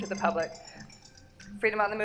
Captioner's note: timer going off